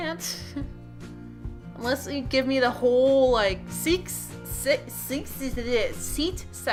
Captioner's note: stutters